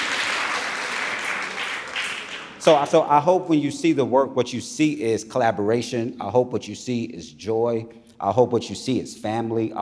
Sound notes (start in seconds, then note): 2.5 audience applauding